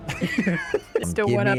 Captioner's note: laughs